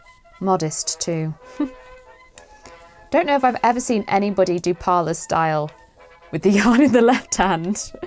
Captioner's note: laughs